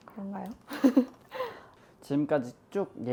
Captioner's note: embarrassed hahahaha